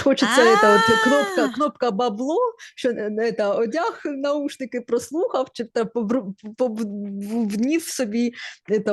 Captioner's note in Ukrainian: крик